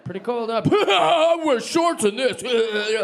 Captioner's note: laughing